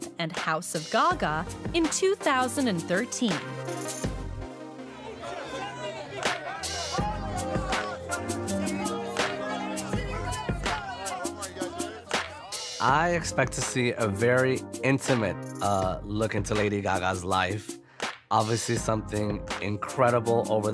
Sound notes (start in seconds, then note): 4.4 rhythmic electronic music; 9.2 crowd yelling